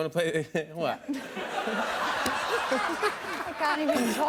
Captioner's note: laughter